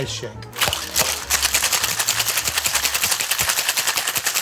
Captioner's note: ice rattling